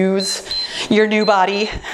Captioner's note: timer beeps